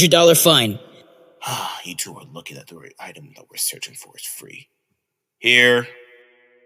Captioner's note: sighing under his breath